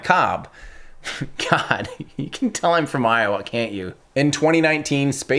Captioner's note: chuckles